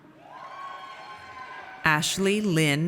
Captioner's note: audience cheers